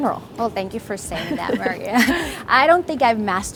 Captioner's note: laughing